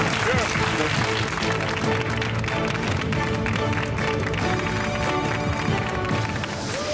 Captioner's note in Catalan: aplaudiments